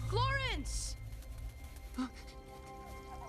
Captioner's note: sniffing